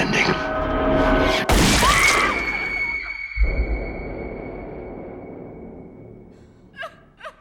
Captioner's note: gun fires; woman screams; Paige whimpers